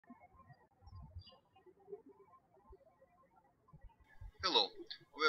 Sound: birds chirping

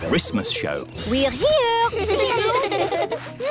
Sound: children giggling

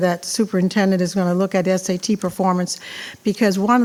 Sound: none

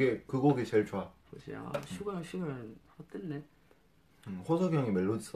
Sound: speaking in a foreign language

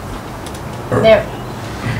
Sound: burp

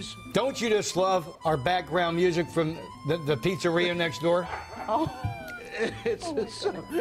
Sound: laughter

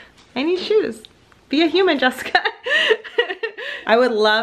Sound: laughs

